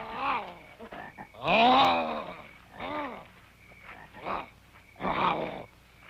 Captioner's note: grunting